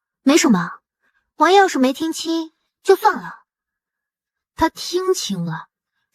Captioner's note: none